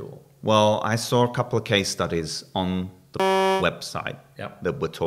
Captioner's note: beep